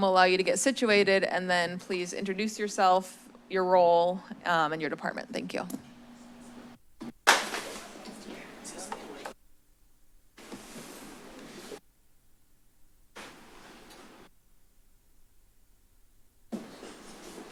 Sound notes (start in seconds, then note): 6.4 silence; 7.3 loud clatter; 7.8 indistinct chatter; 10.4 shuffling noises; 12.3 silence; 16.5 shuffling noises